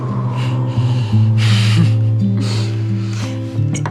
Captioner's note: chuckles